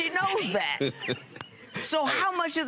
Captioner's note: laughs